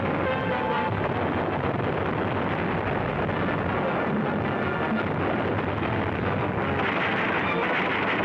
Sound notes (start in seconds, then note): 0.0 dramatic music; 0.6 artillery firing